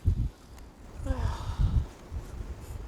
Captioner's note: sigh